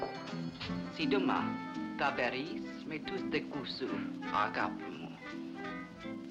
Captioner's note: jazz music plays; speaking foreign language; jazz music plays